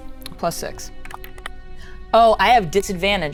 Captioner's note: die rattles